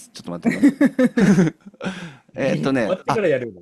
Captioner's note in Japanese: 笑い